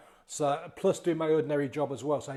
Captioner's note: none